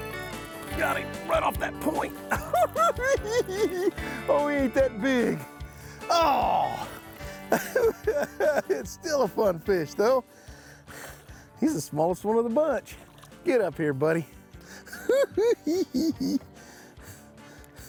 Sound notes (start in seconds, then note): 3.0 cackling; 7.2 chuckling; 14.9 cackles